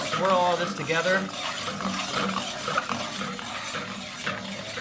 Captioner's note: pan scraping